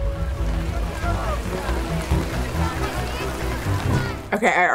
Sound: rain pattering on ground

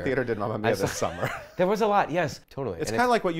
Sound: laughs

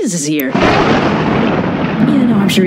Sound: thunder

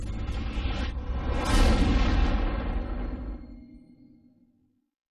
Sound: tornado halts

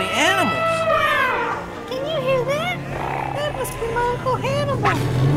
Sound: חצוצרה של פיל

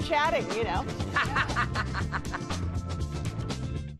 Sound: laughter

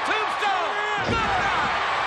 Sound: cheers and applause

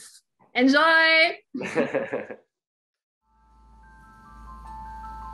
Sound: laughing; relaxing chime music

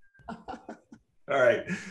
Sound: laughter

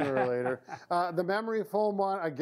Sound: laughing

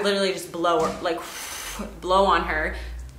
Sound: blowing

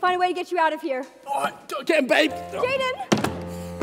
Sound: door closes

